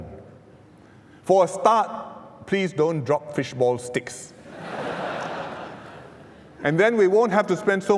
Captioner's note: laughs